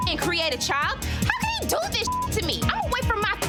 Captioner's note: beep